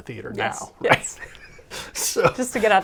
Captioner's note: laughs